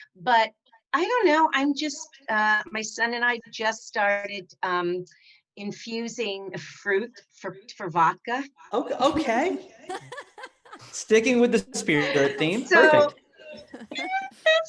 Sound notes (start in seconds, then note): 9.8 laughs